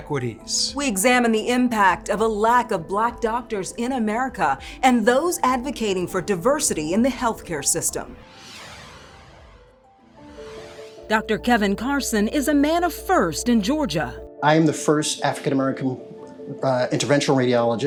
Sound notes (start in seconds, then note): 8.2 graphics whoosh; 9.6 contemplative music